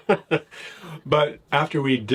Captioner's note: both laugh